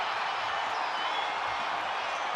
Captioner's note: crowd cheering